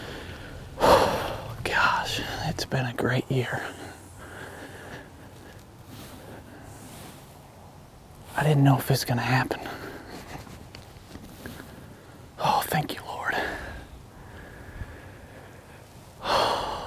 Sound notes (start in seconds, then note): 5.1 whispering